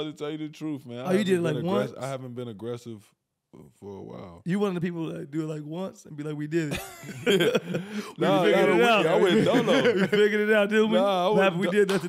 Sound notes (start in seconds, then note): 6.7 laughing